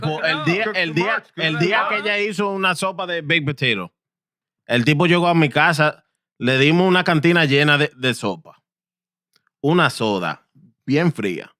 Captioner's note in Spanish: Hablando en idioma extranjero